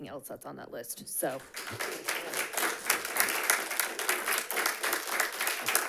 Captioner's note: audience applauds